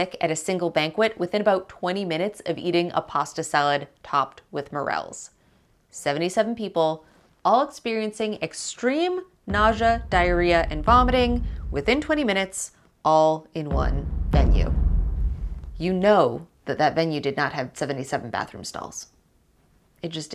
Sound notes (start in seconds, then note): 13.7 audio thudding